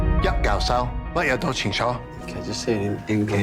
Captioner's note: speaking in foreign language